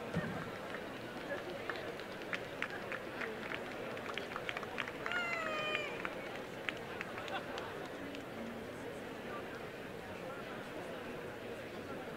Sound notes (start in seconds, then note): 0.4 applause